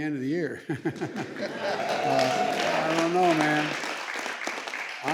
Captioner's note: laughter